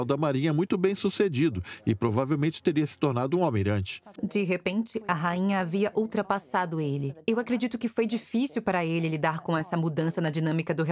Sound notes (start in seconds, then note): 3.4 voiceover